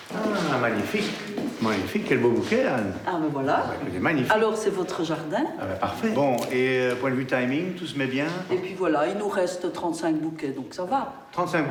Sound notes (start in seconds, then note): 0.1 speaking in foreign language